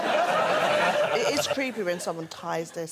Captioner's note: laughter